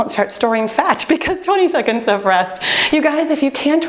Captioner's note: timer beeping